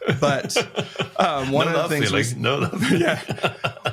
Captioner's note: laughs